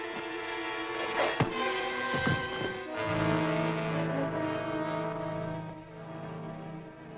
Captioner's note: dramatic music; hook thuds